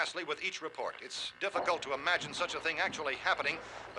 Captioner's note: thumping